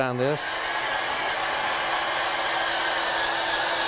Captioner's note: blowdryer running